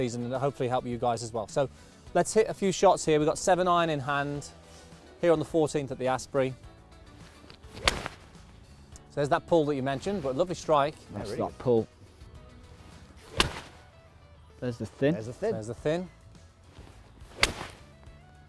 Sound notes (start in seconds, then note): 7.2 golf ball cracking; 13.2 club whooshes; 17.2 club whooshes